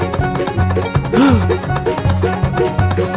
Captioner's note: gasp!